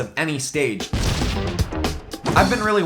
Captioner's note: gunshot